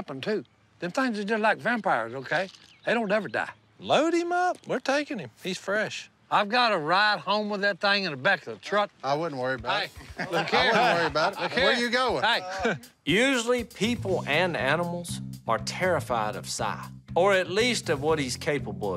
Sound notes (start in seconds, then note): 9.8 laughs